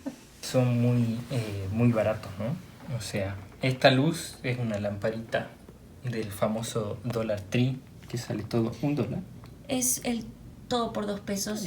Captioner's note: explains what a dollar tree is in Spanish